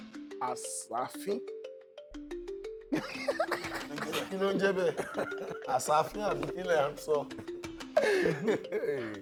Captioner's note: laughs